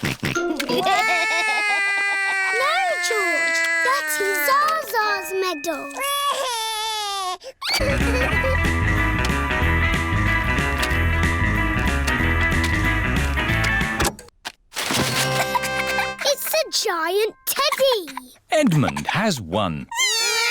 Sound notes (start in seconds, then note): 0.4 george laughs; 0.7 cries; 13.8 music stops